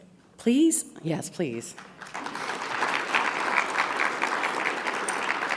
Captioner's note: audience applauding